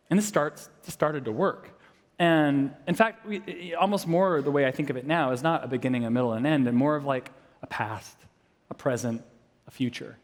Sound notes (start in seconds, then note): none